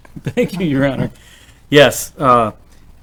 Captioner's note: laughs